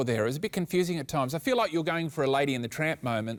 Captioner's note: none